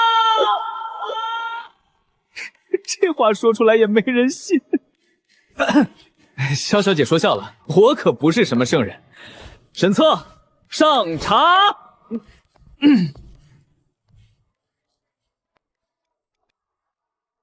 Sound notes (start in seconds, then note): 5.6 cough